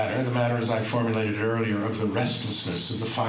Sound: none

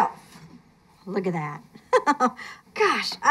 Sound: laughs

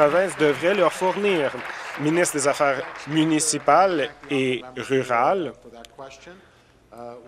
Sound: applause

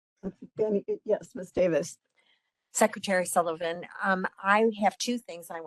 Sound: laughing

